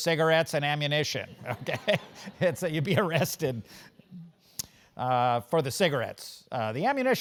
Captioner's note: laugh